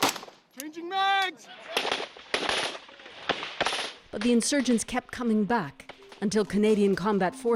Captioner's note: speaking Foreign Language; gunshots